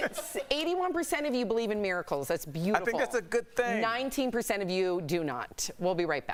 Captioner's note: laughter